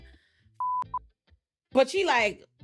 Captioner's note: beep